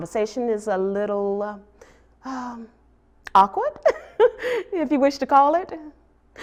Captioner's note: laughs